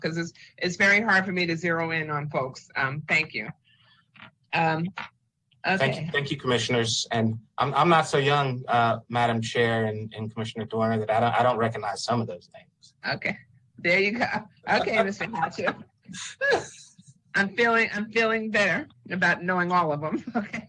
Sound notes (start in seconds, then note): 14.7 chuckles